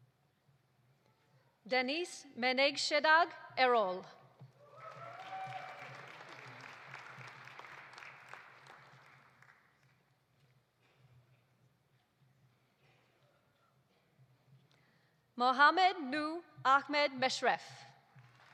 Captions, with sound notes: Deniz Meneksedag Erol. (audience applauding) (audience cheering) Mohamed Nouh Ahmed Meshref.